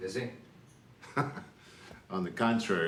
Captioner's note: laughs sarcastically